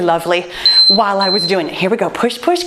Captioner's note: timer beeps